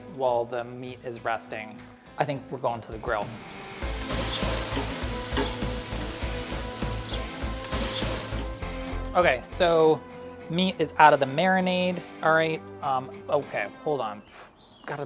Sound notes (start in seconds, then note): 2.9 dramatic rock music; 3.2 meat sizzles